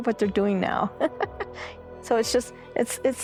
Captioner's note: laughing